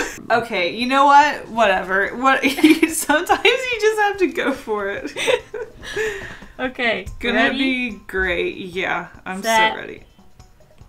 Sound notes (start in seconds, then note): 5.1 both Laugh